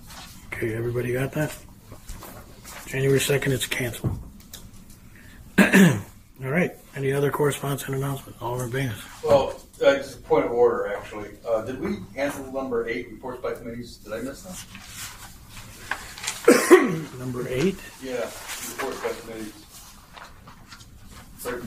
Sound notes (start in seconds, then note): 14.5 pages shuffling; 16.4 coughing